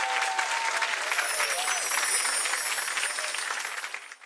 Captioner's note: magical sound